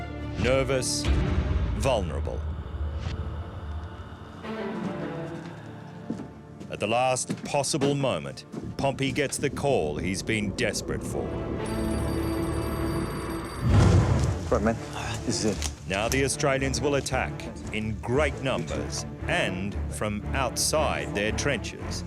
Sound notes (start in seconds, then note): 3.0 tense music; 11.6 telephone ringing; 14.0 leaves rustling